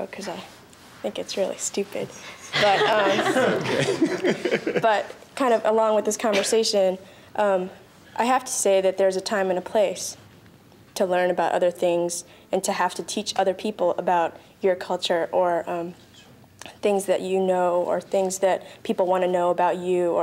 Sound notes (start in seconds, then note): 2.5 panel laughs